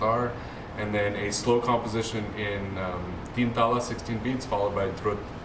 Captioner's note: non-english